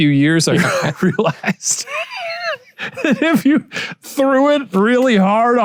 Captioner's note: laughs